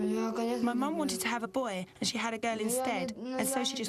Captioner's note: speaking in a foreign language